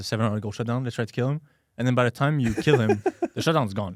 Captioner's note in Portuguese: risos